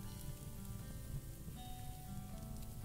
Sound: sizzling

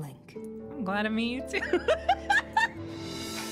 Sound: laughter

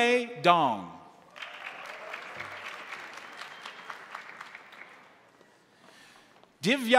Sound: crowd cheering; crowd applauding

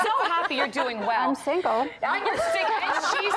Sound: laughter

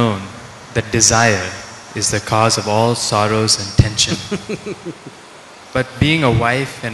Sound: Sadhguru laughs

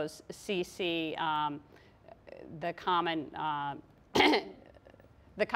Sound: clears throat

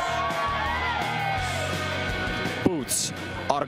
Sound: cheers and applause

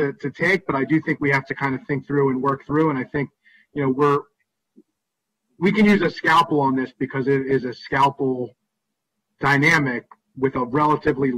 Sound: broken audio

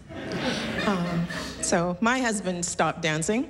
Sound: laughter

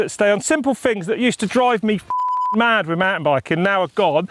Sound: beep

